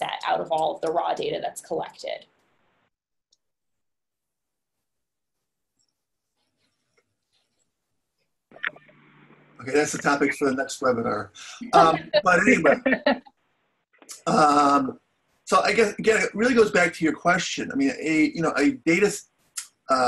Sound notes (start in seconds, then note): 11.6 laughs